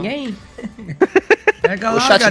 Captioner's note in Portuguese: risos